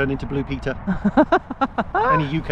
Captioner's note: laughs